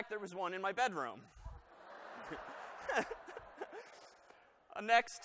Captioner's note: laughter